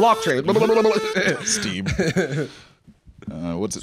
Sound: laughs

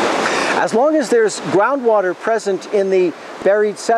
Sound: silence and heavy breathing

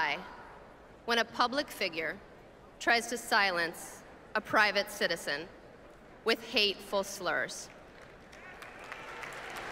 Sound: applause

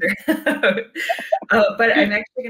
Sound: laughing

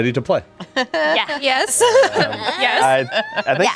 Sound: player laughs

